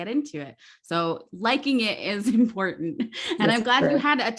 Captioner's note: laughs